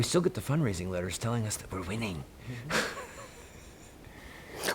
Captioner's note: laughs